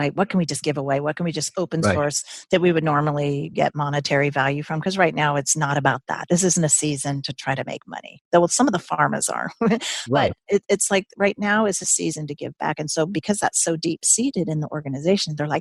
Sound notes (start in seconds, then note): 9.7 laughs